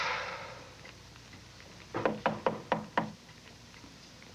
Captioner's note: knock on door